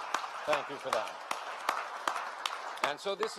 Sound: applause

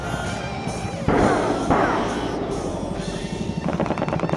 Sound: bullets firing

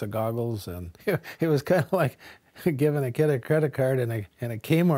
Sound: laughs

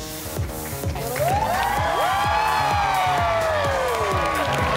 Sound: energetic music; audience claps

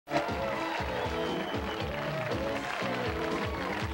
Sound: audience cheering

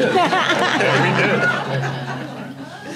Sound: audience and panel laughing

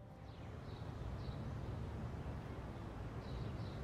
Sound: birds chirping

